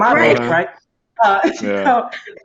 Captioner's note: Windy laughs